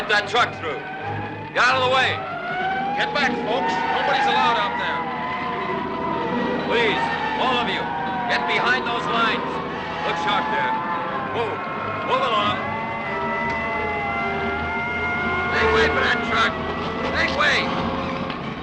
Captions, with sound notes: Let that truck through, get outta the way. (siren wailing) Get back, folks. Nobody's allowed out there. Please, all of you, get behind those lines. Look sharp there, move, move along. Make way for that truck, make way.